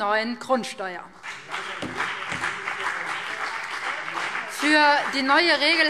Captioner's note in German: Beifall BÜNDNIS 90/DIE GRÜNEN und CDU